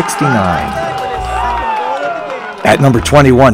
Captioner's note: audience cheering